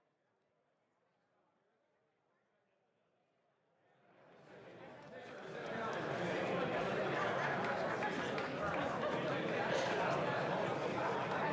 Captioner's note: applause